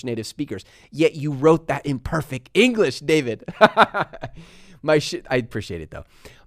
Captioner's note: laughs